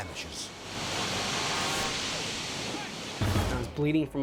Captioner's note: water whooshing; people shouting